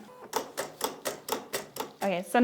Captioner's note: machine clicks